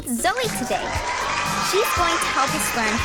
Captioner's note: audience cheering